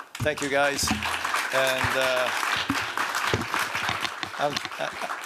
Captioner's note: applause